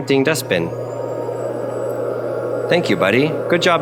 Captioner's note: dust bin humming